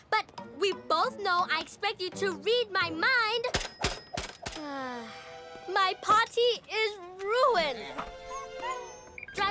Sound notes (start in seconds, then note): 4.6 sighs; 7.8 whimpers